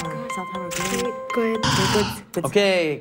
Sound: buzzer

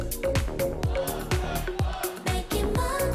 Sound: fanchant

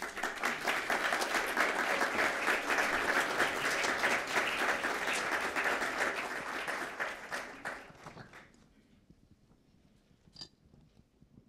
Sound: applause

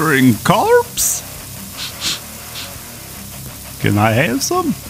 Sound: sniffs

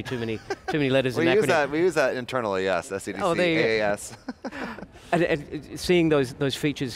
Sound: laughs

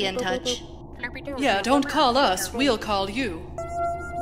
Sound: alien language noises; alien language noises

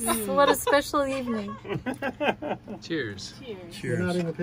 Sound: laughter

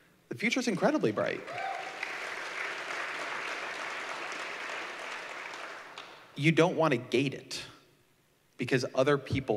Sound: applause

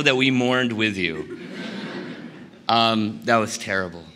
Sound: laughter

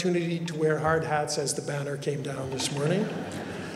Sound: laughter

